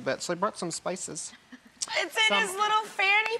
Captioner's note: laughing